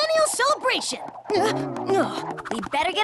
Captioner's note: warble!